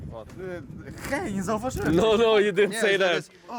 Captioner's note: speaking Polish